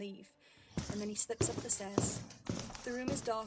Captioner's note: footsteps